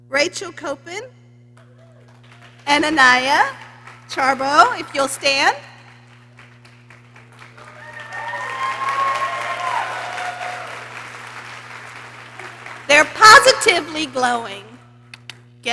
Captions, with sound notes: Rachel Coppin and Anya Charba. If you'll stand. (people cheering) They're positively glowing.